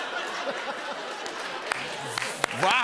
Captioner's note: laughter; applause